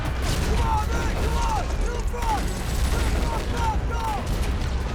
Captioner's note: soldiers yelling